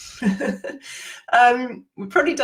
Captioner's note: laughs